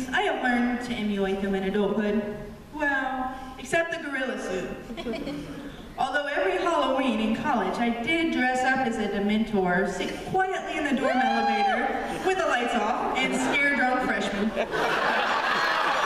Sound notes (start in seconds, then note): 4.8 laughter; 11.0 cheer from audience; 14.5 laughter & applause